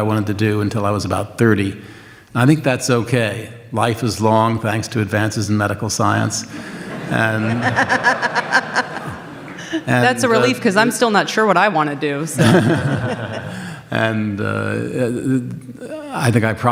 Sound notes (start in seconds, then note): 6.3 audience laughs